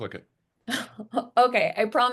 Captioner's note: chuckles